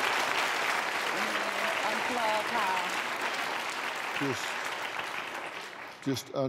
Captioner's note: applause